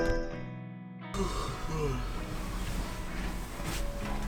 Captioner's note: yawning